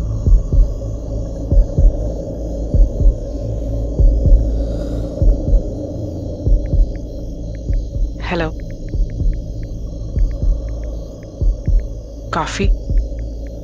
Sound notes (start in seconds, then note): 9.2 typing